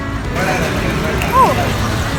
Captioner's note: clicks fingers